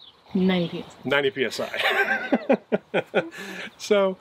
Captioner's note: laughs